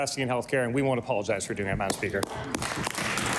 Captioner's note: applause